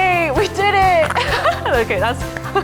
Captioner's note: laughs